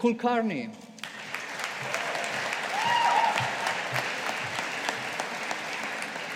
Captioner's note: audience applauding